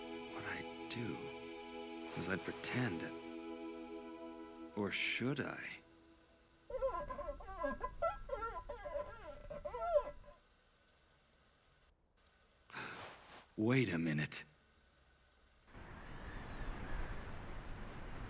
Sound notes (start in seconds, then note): 6.6 squeaking; 12.4 gasps